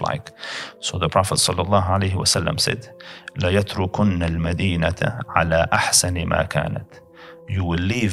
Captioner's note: Arabic